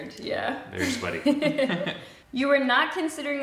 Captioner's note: both chuckle